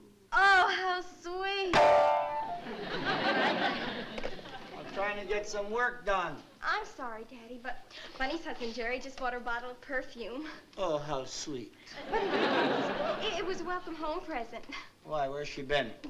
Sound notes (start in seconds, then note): 0.0 flatly; 1.7 discordant notes; 2.6 laughter; 11.9 laughter